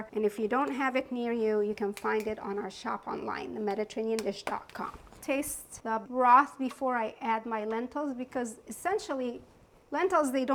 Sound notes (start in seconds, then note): none